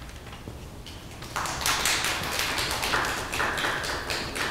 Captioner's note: applause